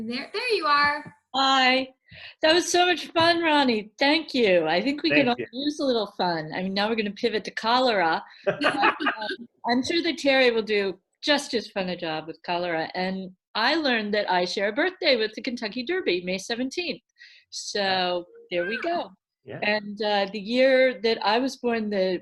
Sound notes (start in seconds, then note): 8.4 laughs